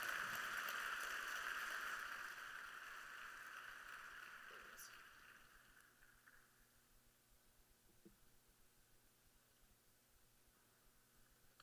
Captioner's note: applause